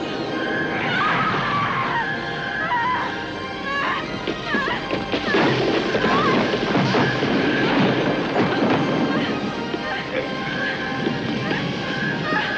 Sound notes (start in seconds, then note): 0.9 Lisa screams